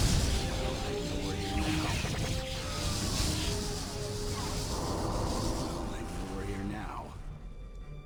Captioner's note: explosion